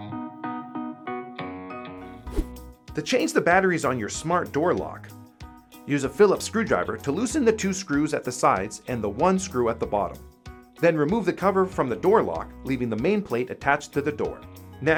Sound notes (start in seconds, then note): 2.2 air whooshing